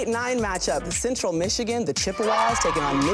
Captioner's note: girls cheering